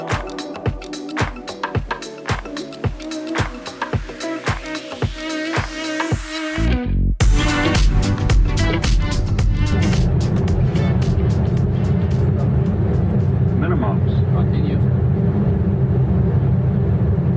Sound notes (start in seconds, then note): 9.1 plane noise